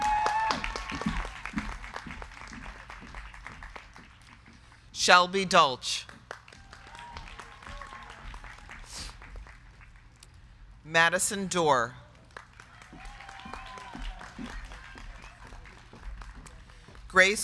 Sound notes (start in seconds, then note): 0.0 crowd cheering; 0.0 crowd clapping; 6.3 crowd cheering; 12.0 crowd clapping; 12.5 crowd cheering